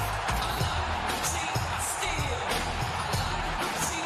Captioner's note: crowd cheering